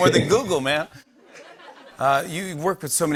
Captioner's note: laughter